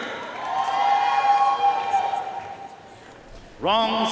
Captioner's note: audience cheering and applauding